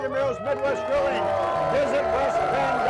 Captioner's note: cheering